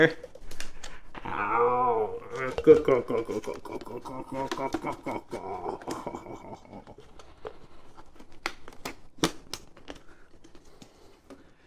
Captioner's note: makes noises